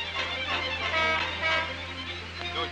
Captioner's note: horn honking